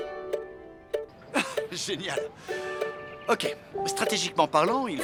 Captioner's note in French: musique enjouée; rires